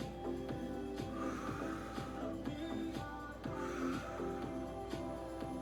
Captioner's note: breaths; upbeat music; breaths; upbeat music